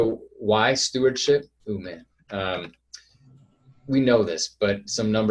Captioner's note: murmurs